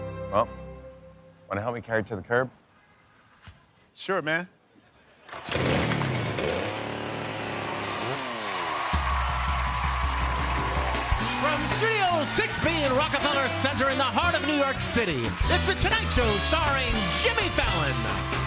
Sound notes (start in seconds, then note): 5.4 chain saw buzzing; 8.2 cheers and applause